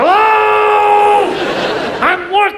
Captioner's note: audience laughs